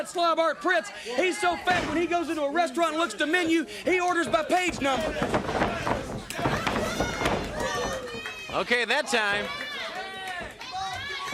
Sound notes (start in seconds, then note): 5.8 crowd chatter